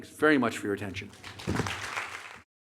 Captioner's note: applause